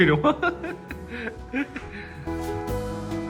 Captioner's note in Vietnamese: tiếng cười